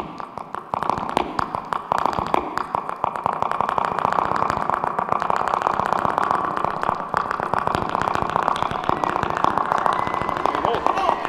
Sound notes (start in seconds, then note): 0.8 quick flamenco tapping; 4.4 speed heel tapping; 7.4 speed heel tapping continues; 10.1 audience cheering